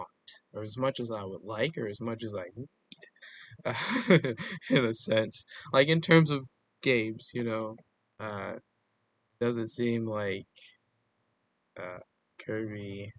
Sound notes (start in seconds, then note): 3.4 chuckles